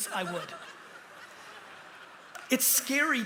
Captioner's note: laughter